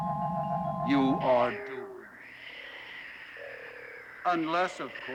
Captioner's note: Sleestack hissing